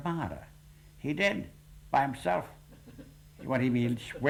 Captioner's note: sarcastically